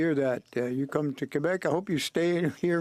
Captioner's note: speaking French